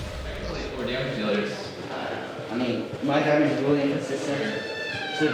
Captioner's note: teammates chattering